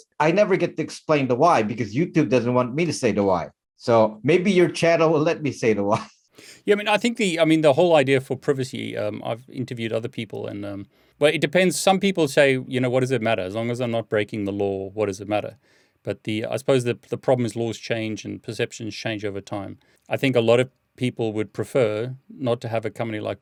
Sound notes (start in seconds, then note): 5.8 laughs